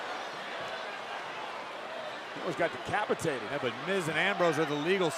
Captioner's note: applause